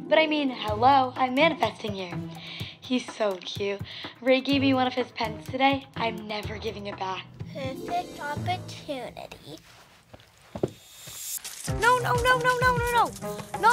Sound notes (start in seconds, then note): 10.7 water gun squirting